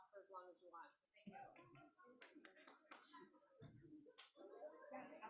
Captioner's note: audience chattering